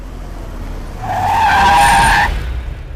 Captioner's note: Brakes squeal